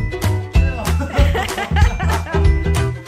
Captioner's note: laughter